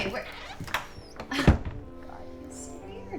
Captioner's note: door thuds; door latch clicks